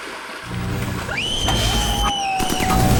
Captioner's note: screams